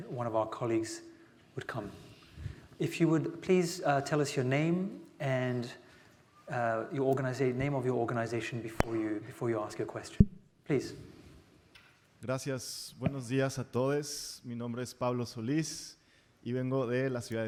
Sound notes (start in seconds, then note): 12.6 speaking Spanish